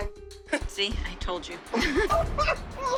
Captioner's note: laughs